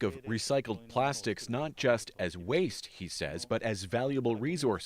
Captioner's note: speaking Foreign Language